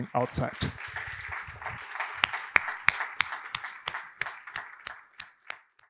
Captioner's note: audience clapping